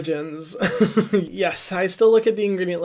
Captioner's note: chuckles